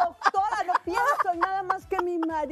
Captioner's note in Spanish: risas